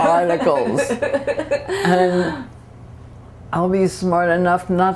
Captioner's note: laughter